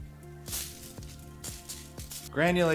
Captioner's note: mellow music; salt pattering